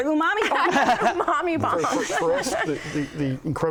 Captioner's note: laughter